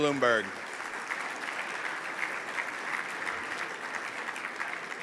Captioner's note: audience applauds